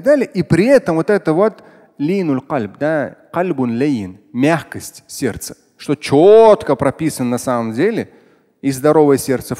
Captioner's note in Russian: говорит на арабском